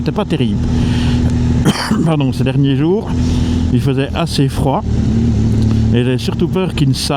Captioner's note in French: Tousse